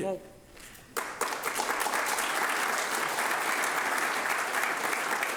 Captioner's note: audience applauding